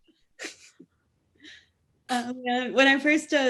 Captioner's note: laughing